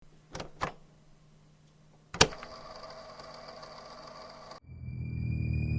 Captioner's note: VHS Tape Noise